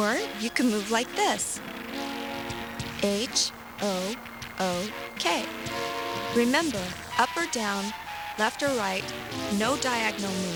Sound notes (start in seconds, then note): none